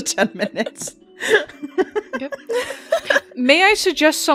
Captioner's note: laughs; laughter